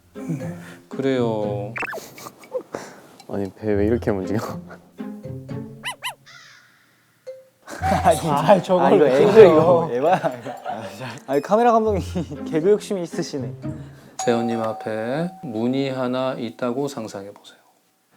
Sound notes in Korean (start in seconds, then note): 10.6 웅성웅성